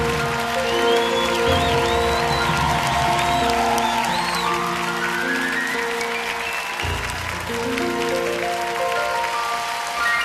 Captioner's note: applause